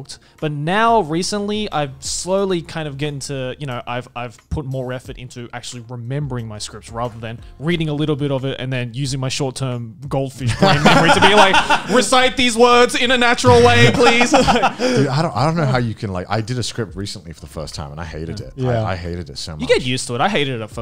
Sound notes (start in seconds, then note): 13.4 group laughs